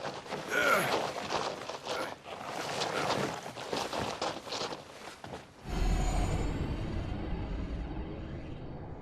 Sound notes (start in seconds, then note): 0.5 Eurylochus groaning; 5.6 mysterious music